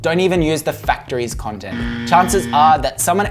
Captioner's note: buzzer buzzing